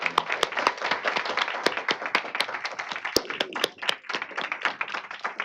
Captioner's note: applause